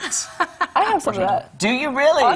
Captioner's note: laughter